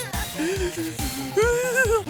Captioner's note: heavy breathing; laughing